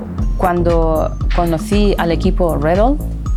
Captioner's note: speaking spanish